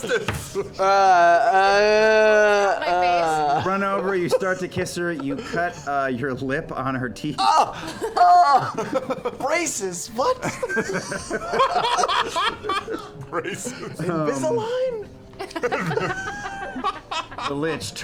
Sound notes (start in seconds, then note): 0.0 moaning